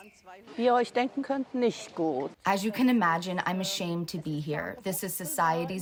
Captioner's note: through translator